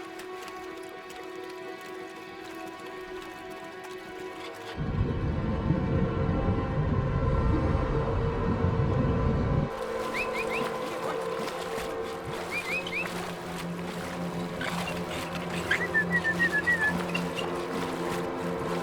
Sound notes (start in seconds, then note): 2.2 tense music; 7.6 person whistling; 10.0 dog panting; 15.8 tense music